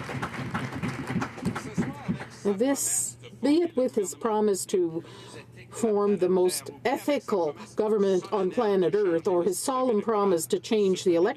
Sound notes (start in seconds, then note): 2.0 some Applause